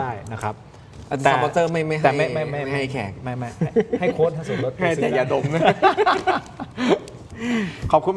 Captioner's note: laughter